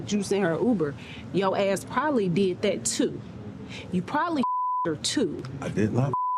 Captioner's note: beep